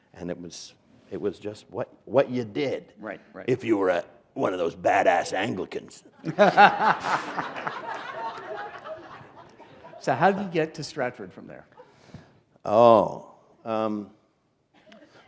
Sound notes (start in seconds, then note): 6.2 laughter